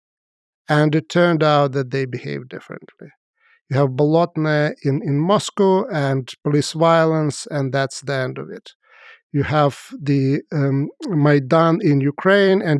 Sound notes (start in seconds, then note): 4.2 speaks foreign language; 9.9 speaks foreign language